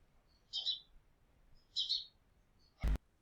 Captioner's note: birds singing